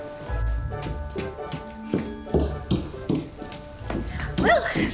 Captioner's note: fast footsteps